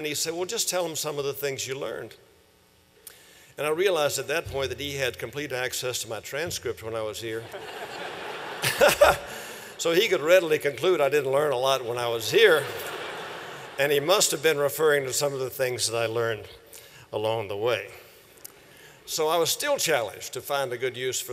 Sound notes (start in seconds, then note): 7.4 laughter